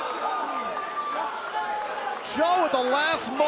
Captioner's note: crowd cheering